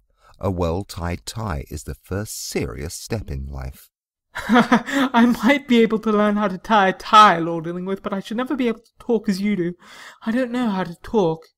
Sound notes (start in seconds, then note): 4.4 laughing